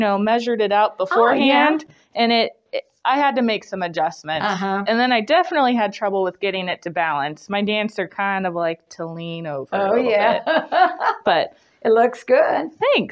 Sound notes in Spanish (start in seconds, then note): 10.2 risas